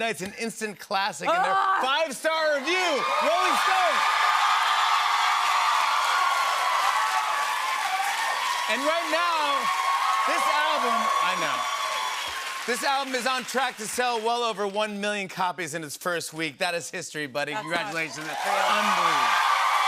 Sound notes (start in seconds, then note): 4.3 cheers and applause